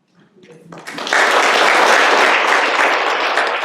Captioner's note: applause